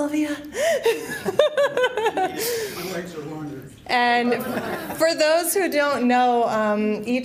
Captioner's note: laughter